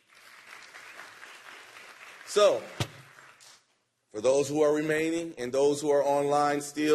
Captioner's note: applause